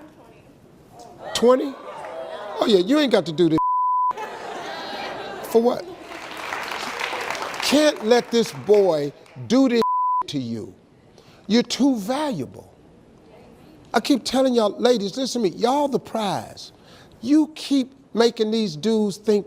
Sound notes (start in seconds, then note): 6.0 audience claps; 9.8 beep